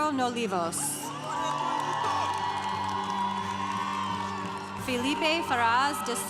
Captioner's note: congregation cheering